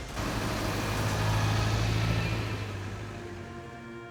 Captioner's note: trunk engine revving